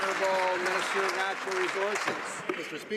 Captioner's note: some Applause